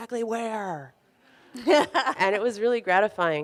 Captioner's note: laughs